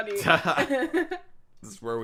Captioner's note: laughing